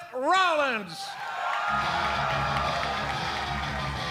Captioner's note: crowd cheering